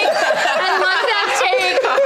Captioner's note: all laughing